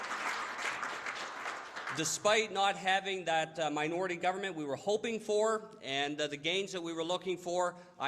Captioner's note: applause